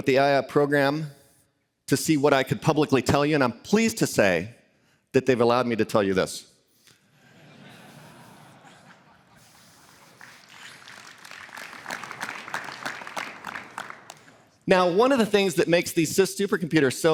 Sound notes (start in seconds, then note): 7.1 laughter; 9.7 applause